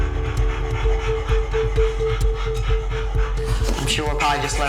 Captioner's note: dog panting